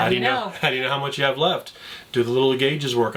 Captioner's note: chuckles